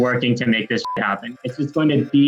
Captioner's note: beep